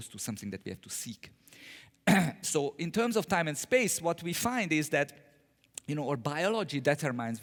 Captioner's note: cough